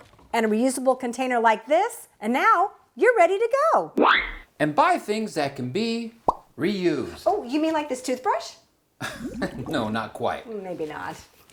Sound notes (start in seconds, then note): 3.9 whistle!; 9.0 laughter